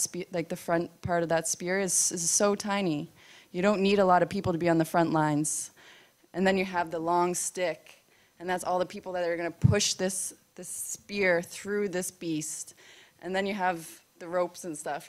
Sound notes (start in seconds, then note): none